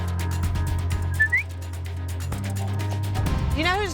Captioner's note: whistling